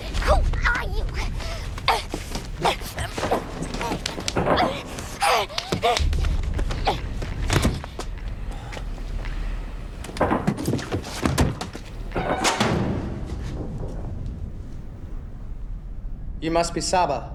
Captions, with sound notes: Who are you? [grunting] You must be Saba.